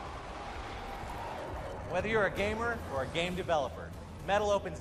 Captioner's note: monster screaming